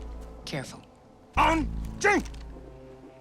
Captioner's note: speaking mandarin